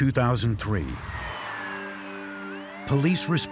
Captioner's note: sirens blaring